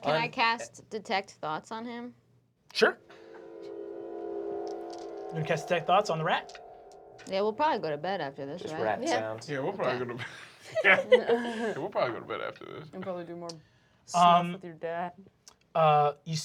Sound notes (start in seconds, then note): 2.9 ominous music; 9.9 laughs